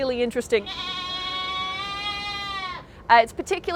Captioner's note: bleating